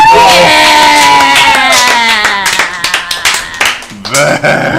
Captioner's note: cheering